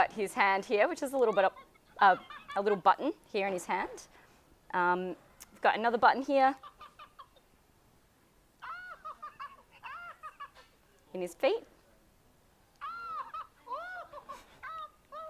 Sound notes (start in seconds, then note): 8.6 Elmo laughing; 12.8 Elmo laughing hysterically